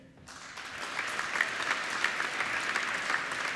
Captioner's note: applauding